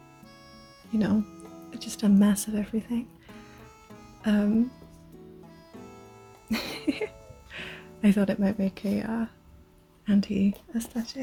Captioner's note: laughs